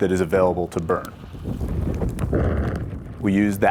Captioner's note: wind howling